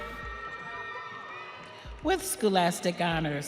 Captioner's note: audience cheering